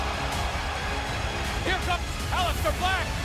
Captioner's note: crowd chatter